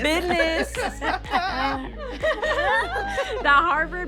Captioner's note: all laughing